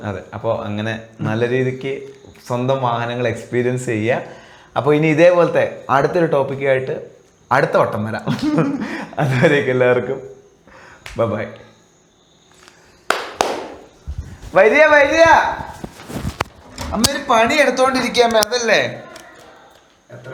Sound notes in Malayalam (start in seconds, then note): 8.3 പൊട്ടിച്ചിരി